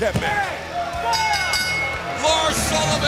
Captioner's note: bell ringing